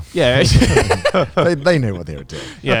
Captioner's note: speakers laughing